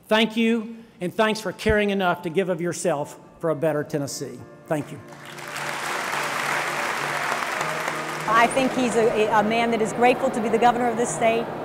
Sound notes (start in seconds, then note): 5.0 applause